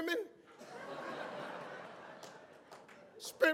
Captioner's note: audience laughs